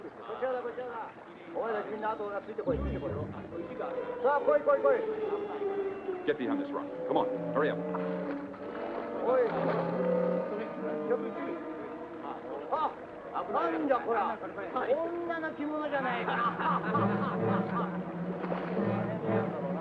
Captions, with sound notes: (Japanese soldiers chattering) Get behind this rock. Come on, hurry up. (Japanese soldiers chattering and laughing)